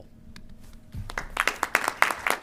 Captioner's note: applause